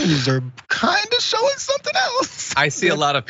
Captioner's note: laugh